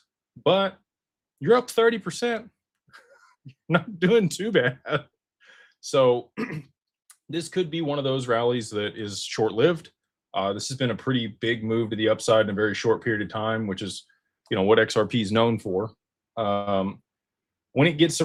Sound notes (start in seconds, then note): 6.3 clears throat